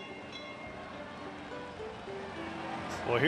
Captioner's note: train bells; country christmas music